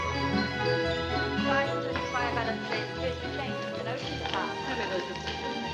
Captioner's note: indistinct chatter